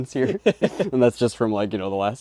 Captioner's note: are both laughing